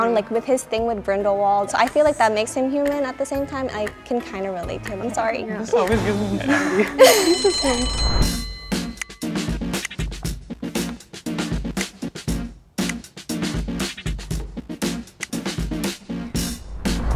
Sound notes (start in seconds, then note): 7.0 bell rings; 8.7 upbeat funk music plays